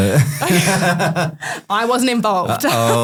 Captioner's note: group laughing